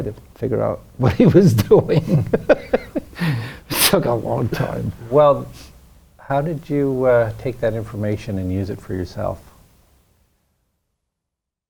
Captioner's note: laughs